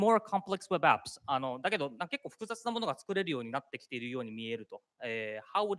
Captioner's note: speaking japanese